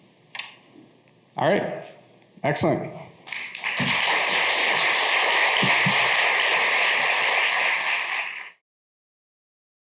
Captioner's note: applause